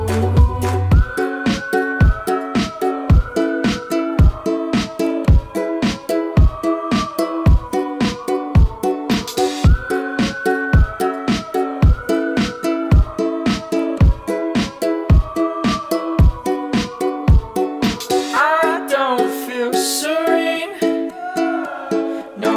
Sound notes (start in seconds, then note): 0.9 whistling